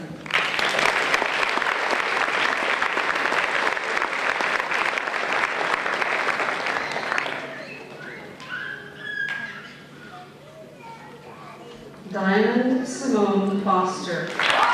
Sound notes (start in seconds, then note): 0.2 applause